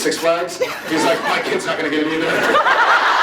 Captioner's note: off mic; laughs